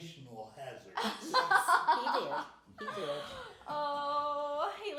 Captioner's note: laughing